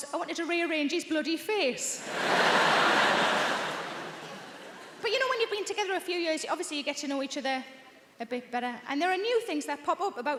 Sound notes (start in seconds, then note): 2.0 audience laughs